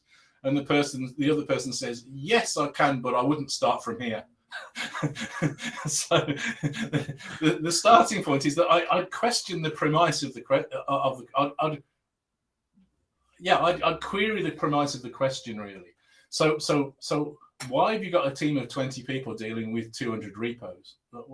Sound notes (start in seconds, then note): 4.5 both laughing